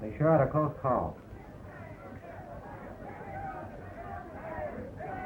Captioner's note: people yelling outside